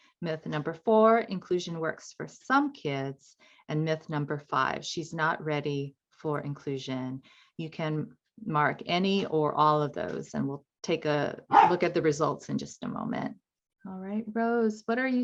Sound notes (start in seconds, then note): 11.5 dog barks